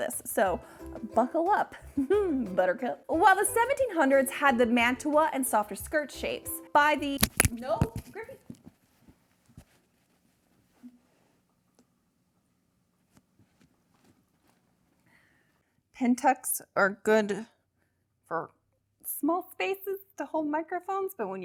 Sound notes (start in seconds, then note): 7.2 bangs